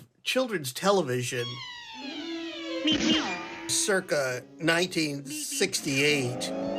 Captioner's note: soundbite of archived recording